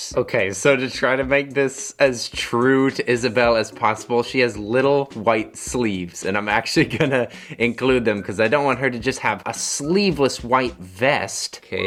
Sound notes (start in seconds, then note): 6.7 chuckles